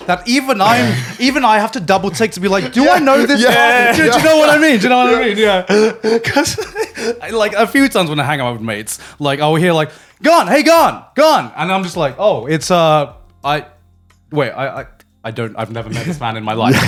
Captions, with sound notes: that even I have to double take to be like, "Do I know this guy?" - Yeah, yeah. (laughing) Do you know what I mean? - Yeah. (laughing) Do you know what I mean? (laughing) 'Cause like a few times when I hang out with mates, like I will hear like, "Garnt, hey, Garnt." And I'm just like, "Oh it's... Wait, I've never met this man in my life." (laughs)